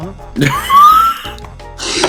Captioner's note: wheeze